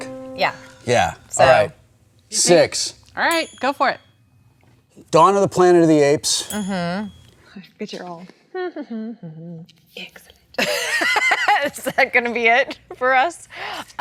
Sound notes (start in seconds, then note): 9.1 hums; 11.4 laughs